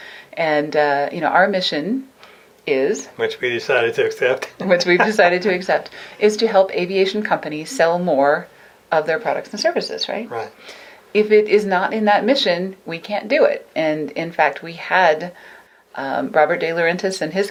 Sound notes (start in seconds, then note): 3.2 laughs